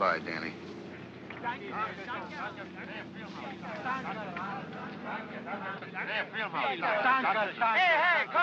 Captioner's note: workers speaking in German